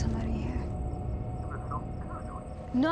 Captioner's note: on phone